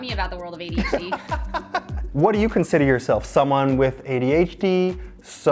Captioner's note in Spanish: risas